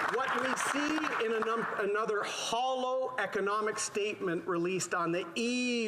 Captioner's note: applause